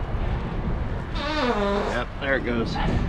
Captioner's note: deflating